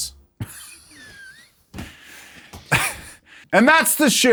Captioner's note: chuckles